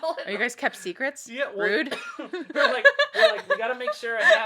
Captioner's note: laughs